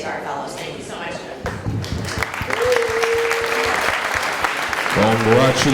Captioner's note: applause